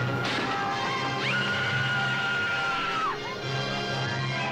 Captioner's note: woman screaming